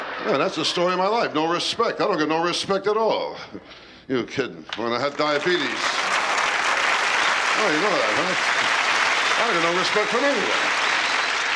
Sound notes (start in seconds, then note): 0.0 laughter; 4.8 applause